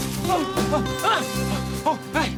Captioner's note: gasps